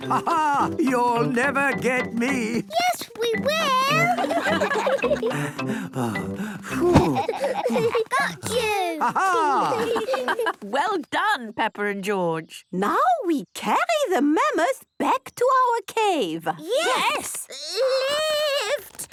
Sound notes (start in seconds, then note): 3.6 all laughing; 7.0 panting